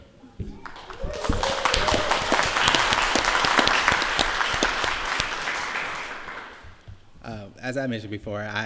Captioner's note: applause